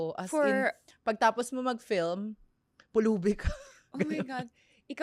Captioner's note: laughs